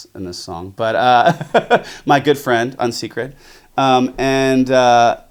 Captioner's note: laughs